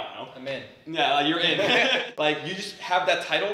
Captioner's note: laughing